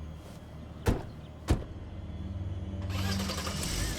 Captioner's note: car doors open, slam; car engine revs